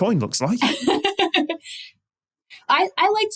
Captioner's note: giggles